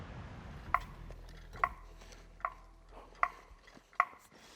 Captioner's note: tool tapping